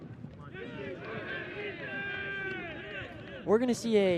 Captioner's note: shouting